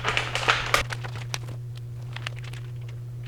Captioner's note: crinkling